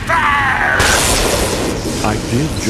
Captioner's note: lightning